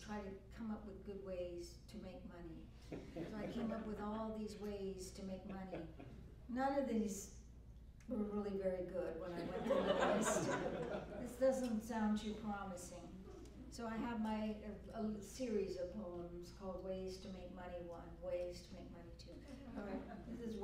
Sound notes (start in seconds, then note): 9.3 laughter